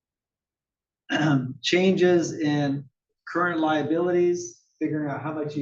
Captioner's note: cough